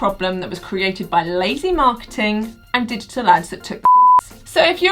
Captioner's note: beep